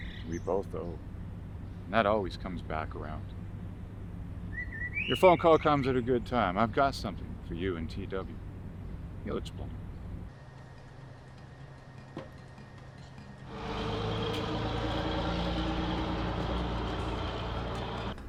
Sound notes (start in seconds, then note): 13.2 truck engine whirring